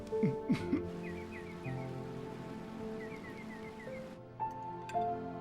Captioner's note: birds chirping